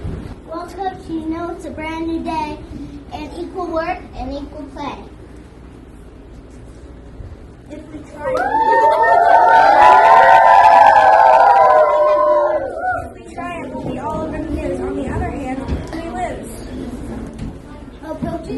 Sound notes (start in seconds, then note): 8.2 all the girls cheer